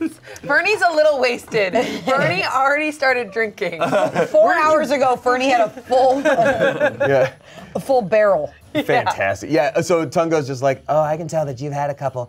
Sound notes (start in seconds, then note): 5.7 laughs